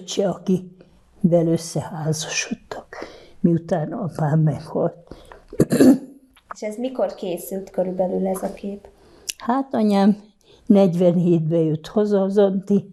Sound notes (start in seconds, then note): 5.5 clears throat